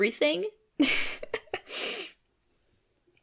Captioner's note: chuckle